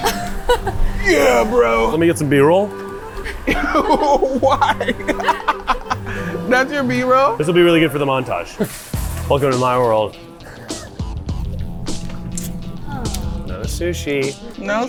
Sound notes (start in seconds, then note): 5.7 laughs; 11.2 energizing music